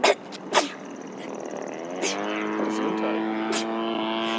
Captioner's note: sneezing; speaking in foreign language